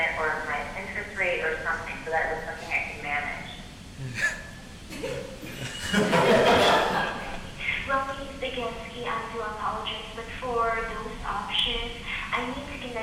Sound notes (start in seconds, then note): 4.9 audience laughing